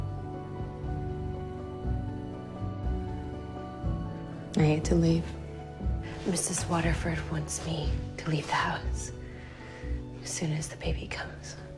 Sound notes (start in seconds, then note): 4.6 voiceover